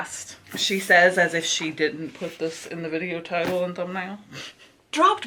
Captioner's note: laughs